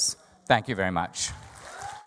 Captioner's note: audience applause